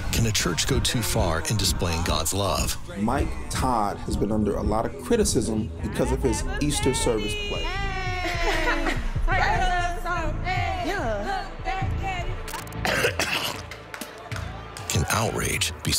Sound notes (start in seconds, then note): 8.9 cheering; 12.8 coughs